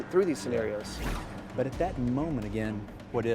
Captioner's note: whooshing